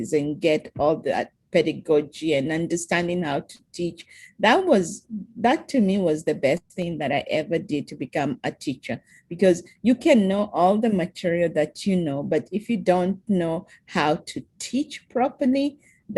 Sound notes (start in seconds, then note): none